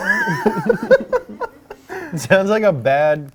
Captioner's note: laughs